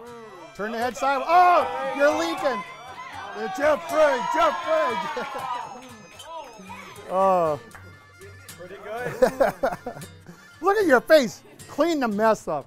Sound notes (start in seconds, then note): 3.5 cheering